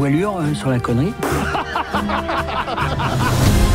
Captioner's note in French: rires